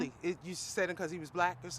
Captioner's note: none